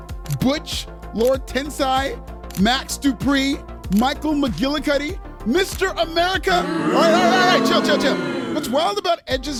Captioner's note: booo